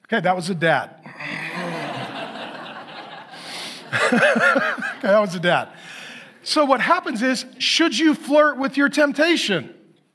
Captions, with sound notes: That was the death. (audience laughs) (laughs) And that was a death. So what happens is, should you flirt with your temptation?